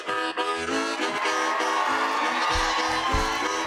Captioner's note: cheers and applause